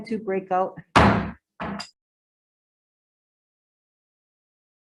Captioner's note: gavel bangs